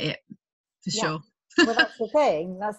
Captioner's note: laughs